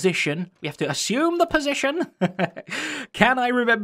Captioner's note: chuckles